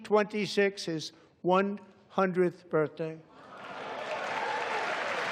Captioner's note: applause